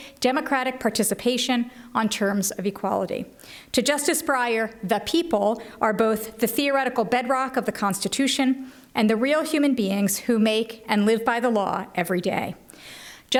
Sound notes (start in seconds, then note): none